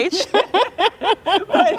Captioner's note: laughter